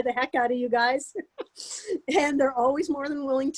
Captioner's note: laughing